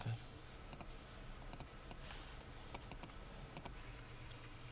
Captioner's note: speaking in foreign language; mouse clicking